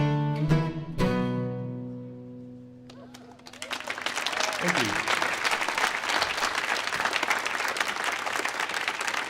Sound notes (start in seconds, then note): 5.7 audience clapping